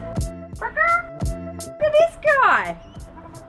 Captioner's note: clucks like chicken